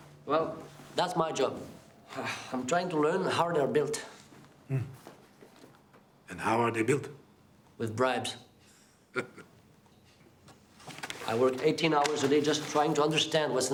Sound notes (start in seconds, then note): 9.1 Jean laughs